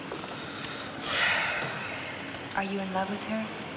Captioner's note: heavy sigh